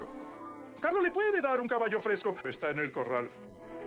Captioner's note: speaking in foreign language